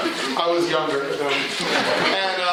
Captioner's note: laughter